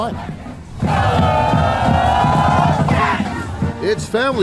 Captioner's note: students chanting